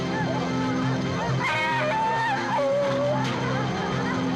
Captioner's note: dog whimpering